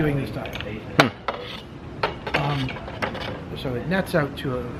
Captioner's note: background mumbling